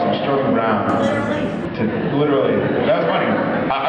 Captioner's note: laughs